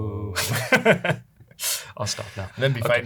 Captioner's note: laughs